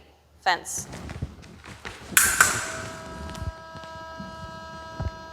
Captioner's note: clicking